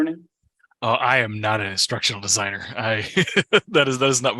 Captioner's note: laughs